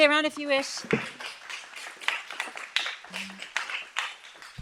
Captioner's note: audience clapping